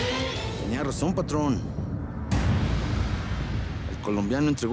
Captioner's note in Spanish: ruido de motores